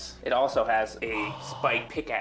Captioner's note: gasps